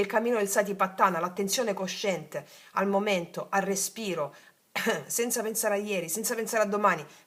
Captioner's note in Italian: schiarire la voce